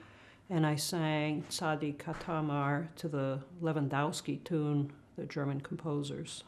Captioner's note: non-english